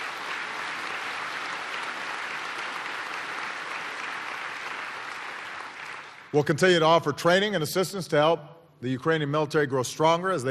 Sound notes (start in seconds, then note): 0.0 applause